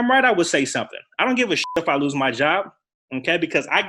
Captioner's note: beep